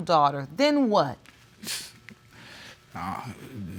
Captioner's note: scoffs